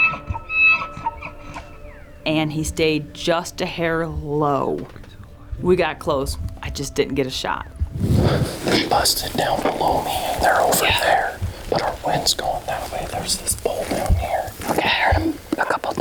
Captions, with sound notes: [elk bugling] And he stayed just a hair low. We got close, I just didn't get a shot.